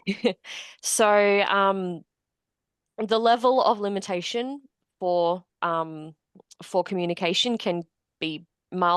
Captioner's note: laughs